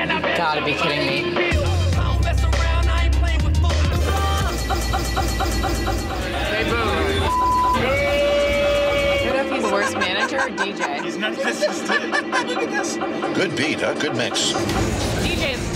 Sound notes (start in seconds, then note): 1.8 upbeat music; 5.3 music skips; 8.1 crowd boos; 10.9 laughs